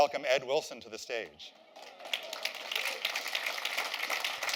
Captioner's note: applause